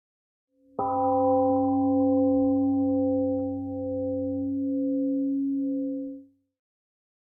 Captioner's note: temple gong rings and fades